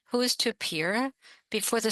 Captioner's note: speaking French